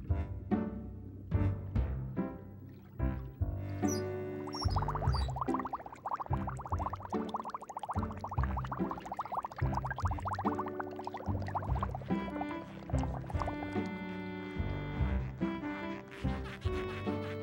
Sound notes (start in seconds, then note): 3.6 bubbles